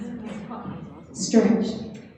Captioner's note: audience chattering